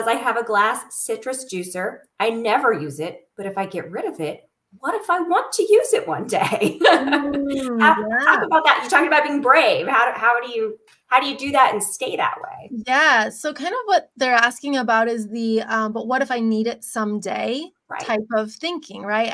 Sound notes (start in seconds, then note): 6.4 laughter